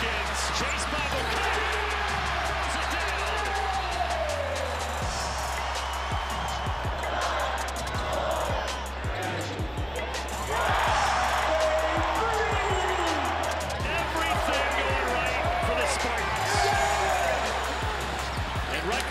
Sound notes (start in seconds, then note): 4.3 crowd cheers; 7.6 crowd; 10.9 crowd cheers